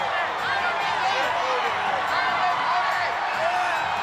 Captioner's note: audience cheering